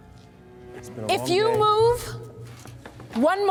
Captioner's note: Carter mumbles